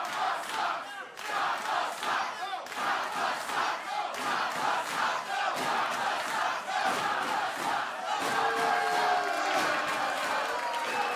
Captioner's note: fans chanting